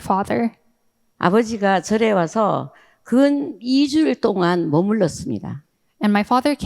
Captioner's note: speaking in foreign language